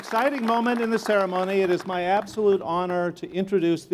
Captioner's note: applause